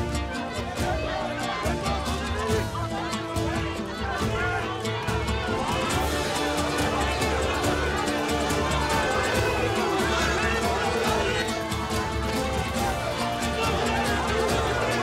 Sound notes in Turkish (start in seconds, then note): 3.7 Yuhalama sesleri